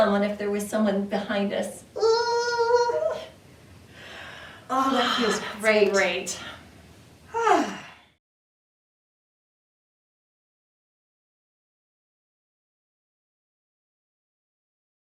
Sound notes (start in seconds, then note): 2.1 both groaning; 7.3 sighs contentedly